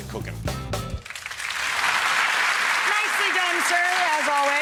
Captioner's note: audience claps